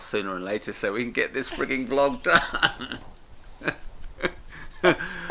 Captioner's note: laughs